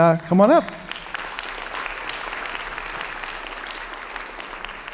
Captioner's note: audience applauding